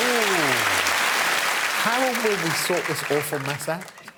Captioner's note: cheers and applause